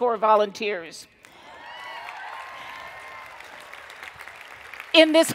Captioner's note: cheering and Applause